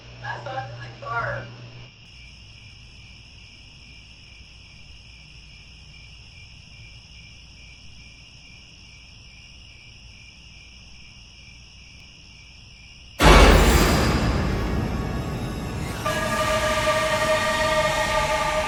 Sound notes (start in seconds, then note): 1.6 eerie music, crickets; 9.7 crickets; 13.2 jump scare